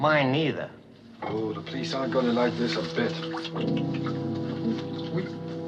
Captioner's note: clicks tongue